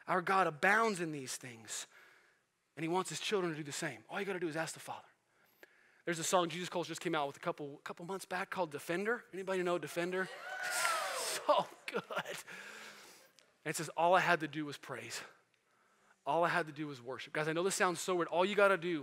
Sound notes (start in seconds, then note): 10.2 cheering